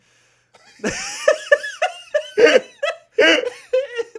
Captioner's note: group laughing